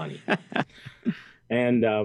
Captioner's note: interviewer laughing